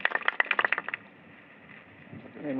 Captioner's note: applause